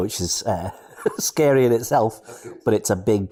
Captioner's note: laugh